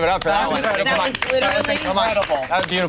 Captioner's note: group applauding